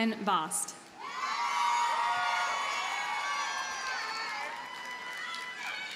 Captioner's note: audience cheers and applauds